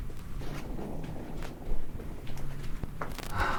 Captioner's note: wood creaking